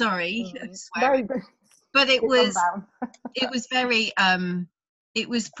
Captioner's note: laughs